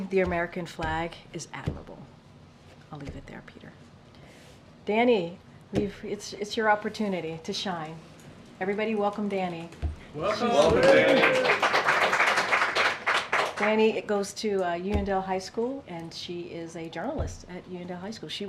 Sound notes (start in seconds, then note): 10.2 applause